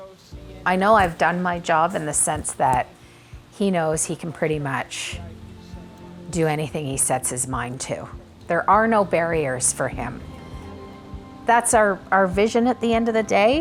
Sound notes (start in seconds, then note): none